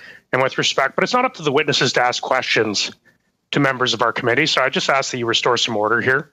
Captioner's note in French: voix de l'interprète